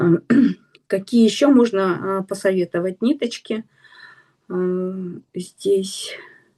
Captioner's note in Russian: откашливается